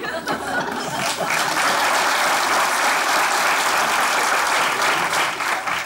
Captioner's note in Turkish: Alkış sesleri